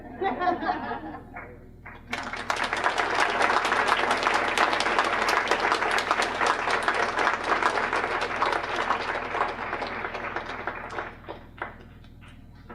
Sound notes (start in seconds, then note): 0.0 laughter; 1.8 applause